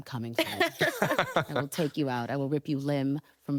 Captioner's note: laughter